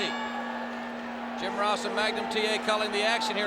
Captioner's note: bell ringing